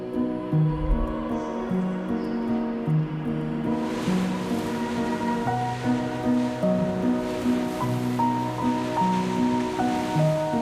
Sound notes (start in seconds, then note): 0.1 gentle music continues; 4.4 waves whooshing